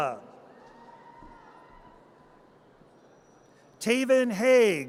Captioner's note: audience cheers